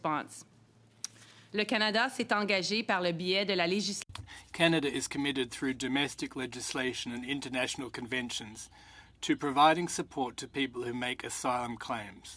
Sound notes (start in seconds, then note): 7.4 speaking French